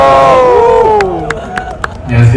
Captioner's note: Clap